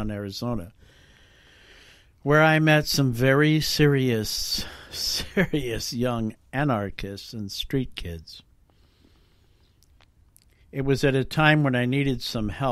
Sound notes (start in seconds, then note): 5.1 uneasy laugh